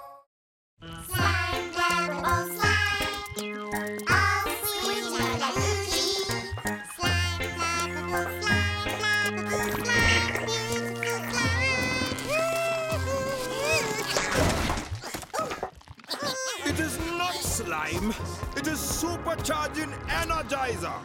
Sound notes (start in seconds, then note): 13.4 grunts; 15.2 laughing